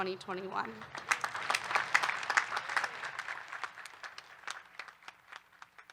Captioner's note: faculty and graduates clapping